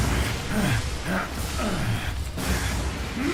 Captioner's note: grunting